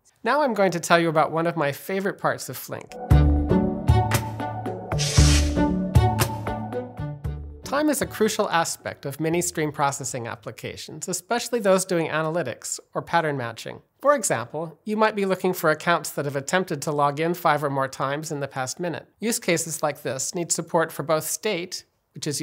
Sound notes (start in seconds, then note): 2.9 bright music; 4.9 graphics whooshing; 5.0 bright music